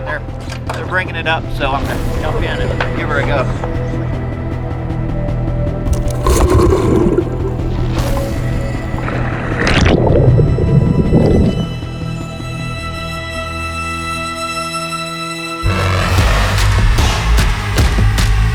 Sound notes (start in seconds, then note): 3.2 suspenseful music; 5.8 water gurgling; 8.2 suspenseful music; 15.9 rock music